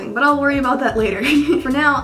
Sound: laughing

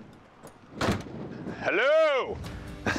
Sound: knocking

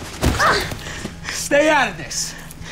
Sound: Anne groaning

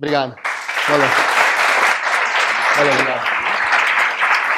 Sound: applause

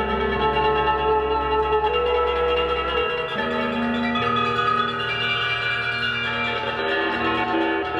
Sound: none

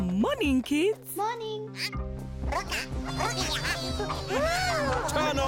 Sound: robotic chattering

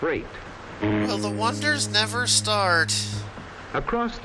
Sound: bored kid voice

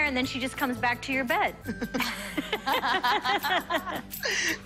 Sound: laughter

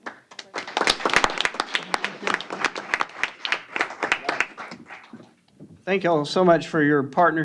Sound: applause

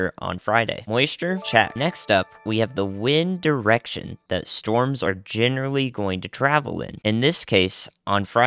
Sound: ding

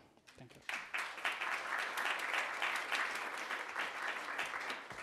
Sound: attendees applauding

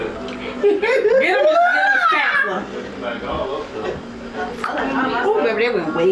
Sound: loud laughing blocks out the speaker

